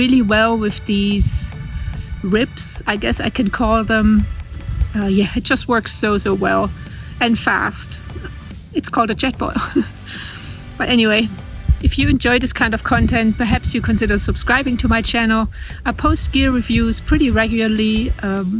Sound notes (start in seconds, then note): 9.4 laughs